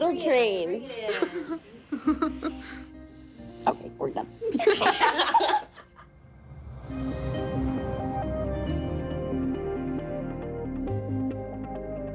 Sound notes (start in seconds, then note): 4.5 everyone laughing; 6.5 dramatic music